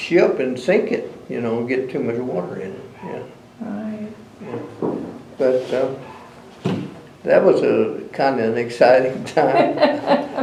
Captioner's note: laughter